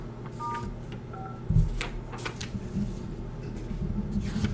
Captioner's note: phone beeping